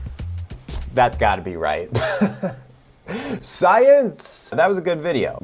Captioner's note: chuckles